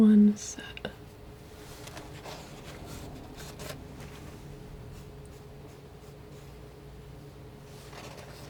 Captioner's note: scratching